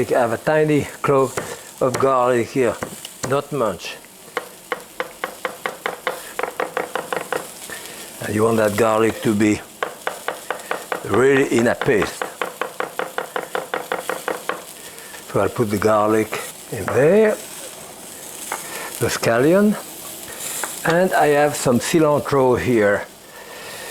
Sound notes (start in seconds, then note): 4.7 chopping; 11.7 chopping